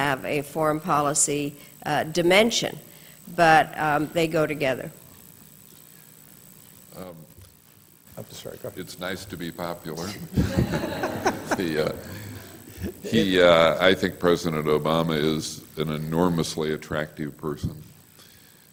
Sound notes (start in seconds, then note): 10.1 laughter